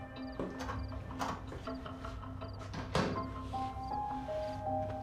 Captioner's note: door clicking